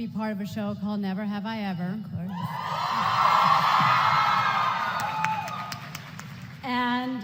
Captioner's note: applause